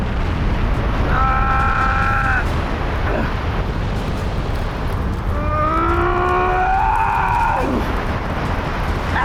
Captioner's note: grunts/Groans